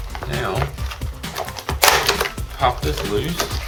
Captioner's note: plastic breaking